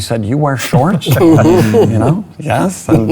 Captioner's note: laughing